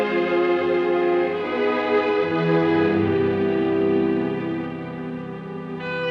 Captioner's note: none